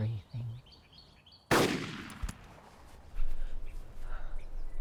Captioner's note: gun bangs